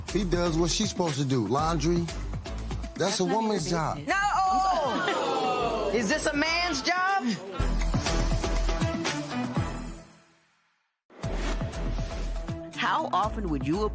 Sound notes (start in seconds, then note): 6.9 audience oh's